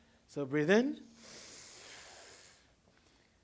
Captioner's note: students inhale